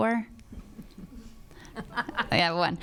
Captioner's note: laughs; crowd murmuring